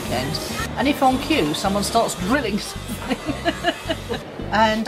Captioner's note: laughs